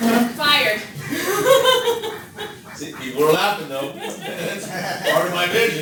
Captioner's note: laughter